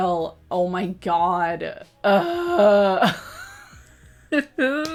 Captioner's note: laughs